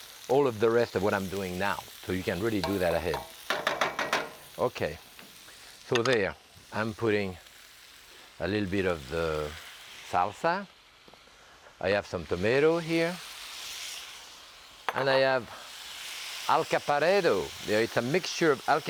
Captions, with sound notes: all of the rest of what I'm doing now, so you can really do that ahead. (spoon tapping) Okay, so there, I'm putting a little bit of the salsa. I have some tomato here. And I have alcaparrado. It's a mixture of alcaparrado